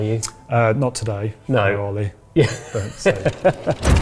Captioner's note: laughs